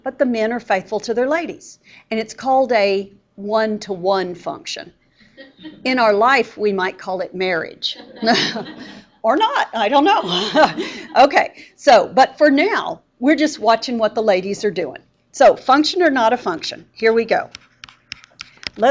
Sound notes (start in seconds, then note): 7.9 students laughing; 10.5 laughing